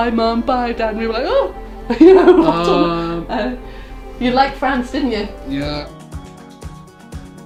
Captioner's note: laughs